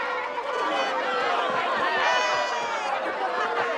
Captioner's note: excited chatter